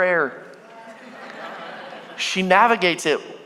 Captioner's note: congregation laughing